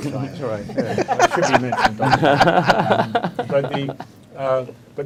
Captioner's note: people laughing